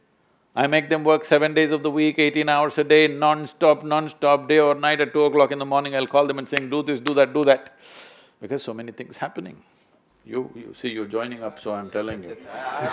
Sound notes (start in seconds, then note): 12.6 laughter